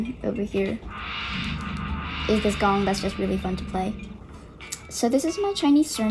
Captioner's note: gong sound